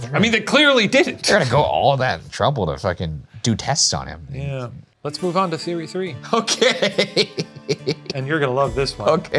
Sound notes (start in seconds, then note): 6.3 laughing